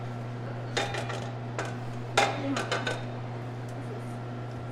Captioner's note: metal clanking